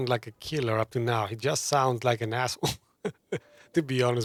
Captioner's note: laughs